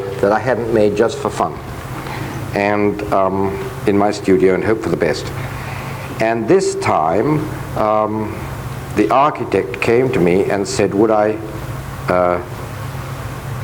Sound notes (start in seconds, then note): none